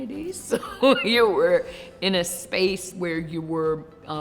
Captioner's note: laughs